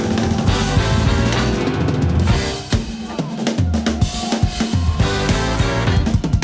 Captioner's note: audience cheering; lively band music